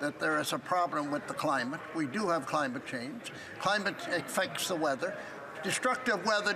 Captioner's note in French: voix de l'interprète